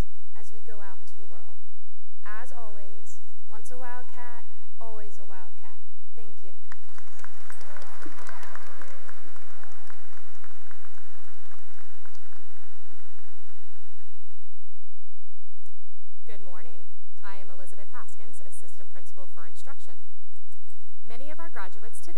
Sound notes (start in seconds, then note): 6.6 cheering and applause